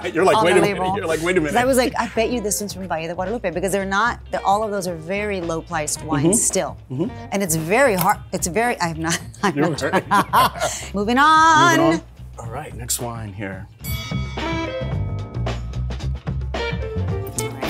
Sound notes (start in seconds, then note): 13.8 loud ding; 14.7 upbeat music